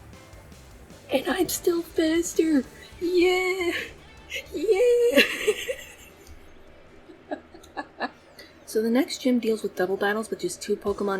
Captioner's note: laughs